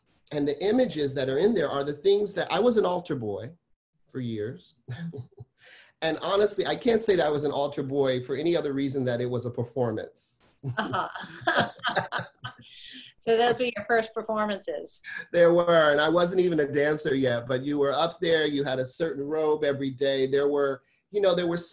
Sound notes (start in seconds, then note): 10.7 laughs